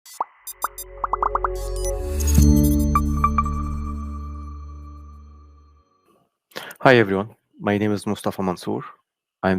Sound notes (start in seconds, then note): 0.0 graphics popping; 2.1 graphics chiming